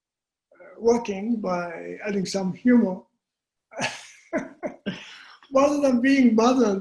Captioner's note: chuckling